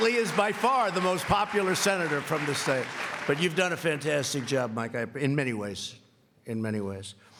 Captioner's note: applause